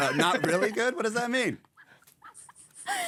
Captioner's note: laughing